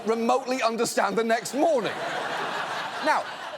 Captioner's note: audience laughs